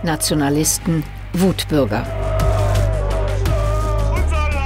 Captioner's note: loud shouting